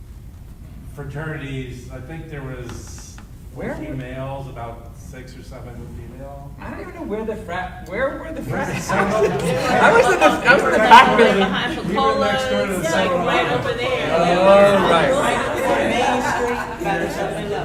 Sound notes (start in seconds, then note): 9.0 panel laughing; 11.7 laughing drowns out speakers; 14.0 panel chattering